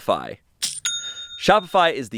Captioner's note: cash register rings